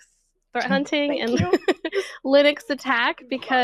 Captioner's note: laughs